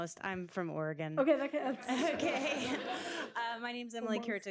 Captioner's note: laughter